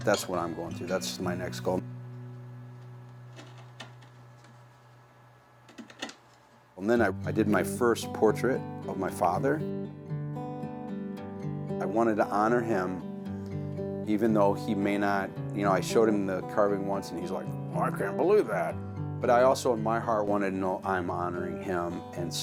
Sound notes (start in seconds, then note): 2.7 wood scraping softly; 10.1 gentle guitar music